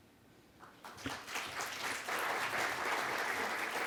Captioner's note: applause